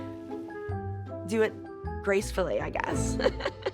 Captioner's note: laughs